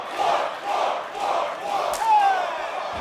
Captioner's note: crowd cheering